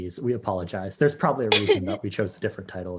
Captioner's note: laughs